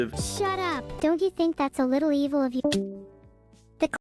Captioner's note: Discord Sound